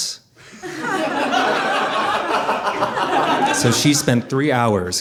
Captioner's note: audience laughing